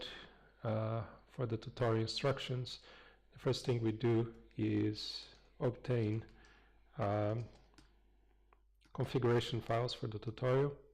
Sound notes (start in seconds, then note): 6.4 pause